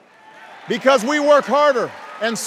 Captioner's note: cheers